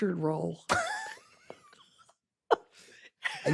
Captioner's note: laughs